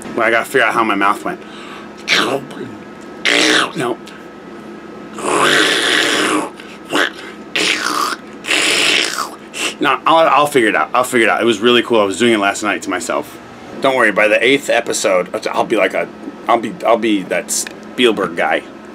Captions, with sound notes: I gotta figure out how my mouth went. (throat sound) Nope. (throat sound) No, no I'll figure it out. I'll figure it out. It was really cool. I was doing it last night to myself. Don't worry by the eighth episode, I'll be like a... I'll be that Spielberg guy.